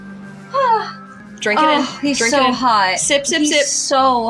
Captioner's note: sigh